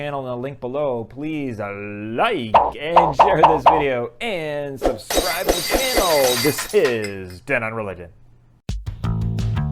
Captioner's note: glass breaking